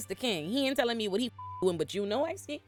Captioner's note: beep